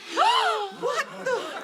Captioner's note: all gasp